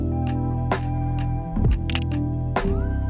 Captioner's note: camera clicks